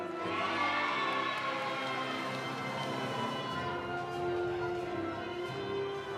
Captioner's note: audience cheering; audience applauding